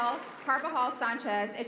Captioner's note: applause